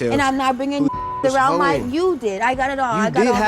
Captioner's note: beep